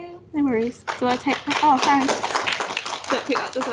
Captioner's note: clapping